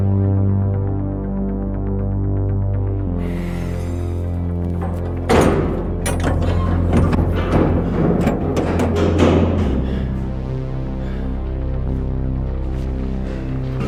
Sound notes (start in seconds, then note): 4.5 door creaks; 4.7 door slams; 6.8 latch clunks; 10.0 Carling breathes heavily